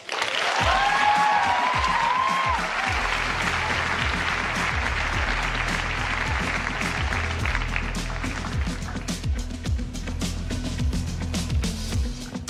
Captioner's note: applause